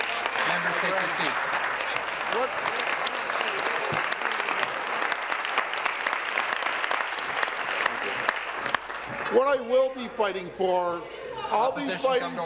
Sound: applause

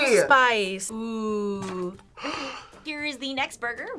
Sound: gasps

